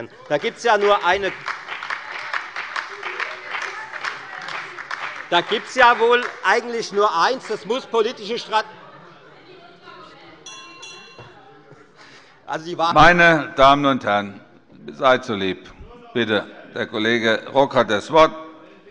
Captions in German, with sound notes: [Beifall bei der FDP und den LINKEN] Da gibt es eigentlich nur eines: Das muss politische Strategie sein. [Zurufe - Glockenzeichen des Präsidenten] Meine Damen und Herren, seid so lieb! Herr Kollege Rock hat das Wort.